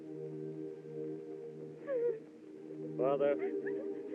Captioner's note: women Crying